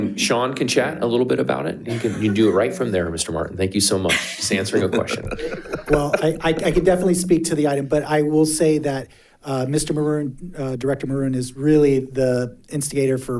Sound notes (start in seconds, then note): 4.1 board Members laughing